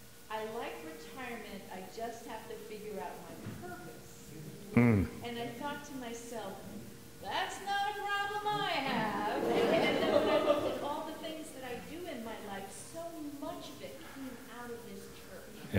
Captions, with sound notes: I like retirement, I just have to figure out my life. That's not a problem I have. (audience laughing) But I do in my life so much that I'm out of this church,